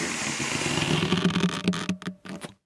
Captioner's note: balloon inflating